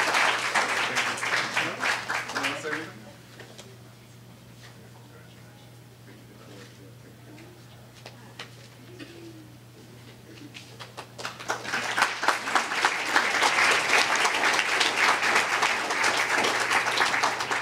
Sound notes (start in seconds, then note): 3.4 applause